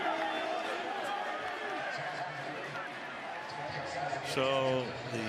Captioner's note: onfield chatter